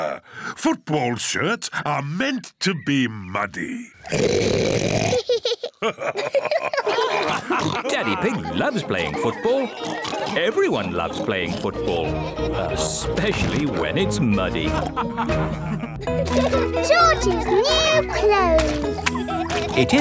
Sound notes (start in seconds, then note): 0.0 laughs; 3.7 oinks loudly; 5.1 both laugh; 14.6 all laughing